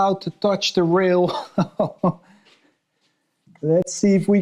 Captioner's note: chuckles